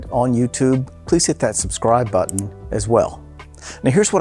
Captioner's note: button clicking